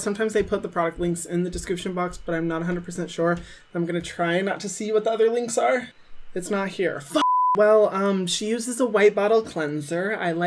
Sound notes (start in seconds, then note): 7.2 beeping